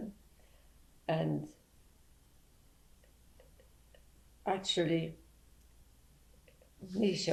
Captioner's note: pauses for 3 seconds